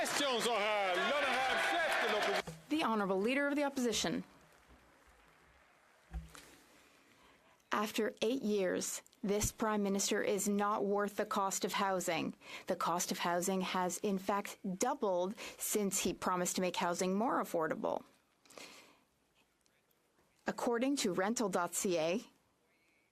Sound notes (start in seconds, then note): 0.3 speaking Alternate Language; 6.3 speaking French